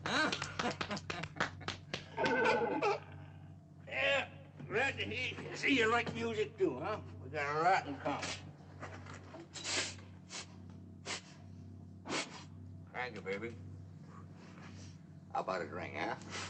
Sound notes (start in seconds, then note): 1.8 barking